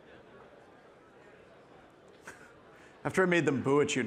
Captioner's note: participants chattering